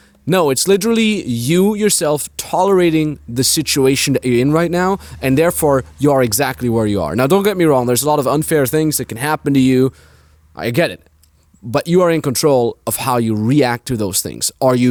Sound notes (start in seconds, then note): none